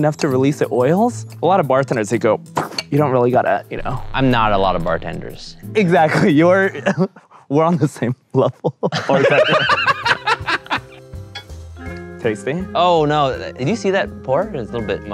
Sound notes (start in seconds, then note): 9.6 laughing